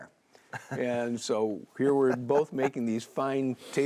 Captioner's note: laughs